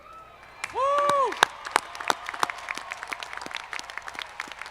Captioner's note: audience clapping